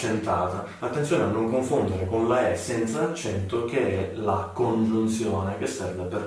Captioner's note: without accent